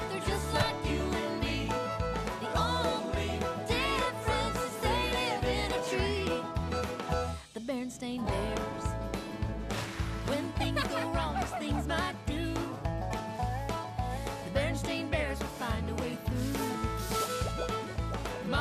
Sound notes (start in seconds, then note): 10.3 giggling